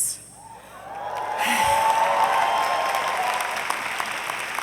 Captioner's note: audience applauding